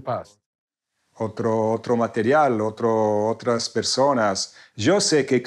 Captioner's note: speaking in foreign language